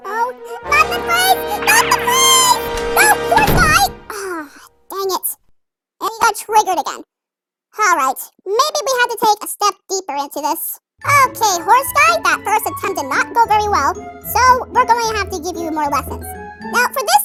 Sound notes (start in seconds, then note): 2.6 door opens; 3.7 door closes